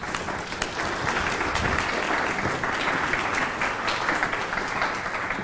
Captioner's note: audience applause